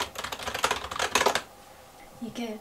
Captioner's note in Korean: 타닥타닥